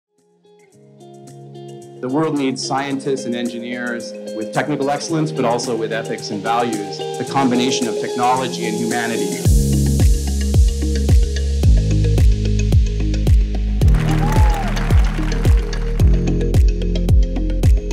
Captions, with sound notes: (bright music) - The world needs scientists and engineers with technical excellence, but also with ethics and values. It's a combination of technology and humanity. (bright music continues) (crowd applauding)